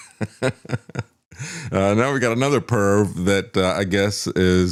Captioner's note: laugh